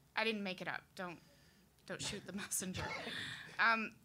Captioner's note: laughing